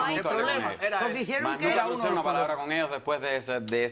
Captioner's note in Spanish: Hablan al unísono